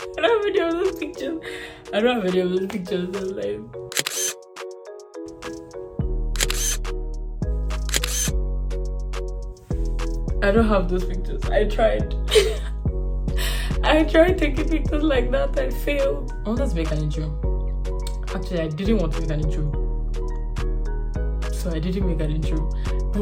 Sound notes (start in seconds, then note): 3.9 camera click; 6.3 camera click; 12.3 laughs